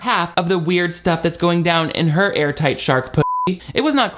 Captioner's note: beep